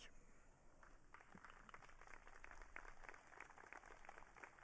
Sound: audience clapping

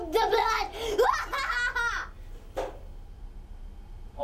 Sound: evil laugh

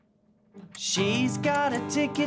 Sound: timer ticking

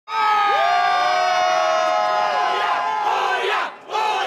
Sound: crowd cheering

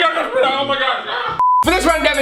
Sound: beep

